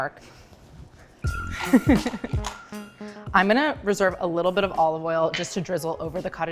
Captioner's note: laughs